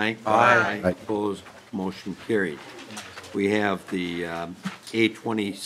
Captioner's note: chorus of ayes